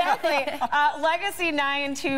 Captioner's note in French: laughter